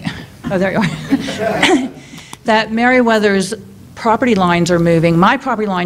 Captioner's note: laughter